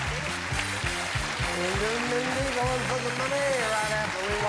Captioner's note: applause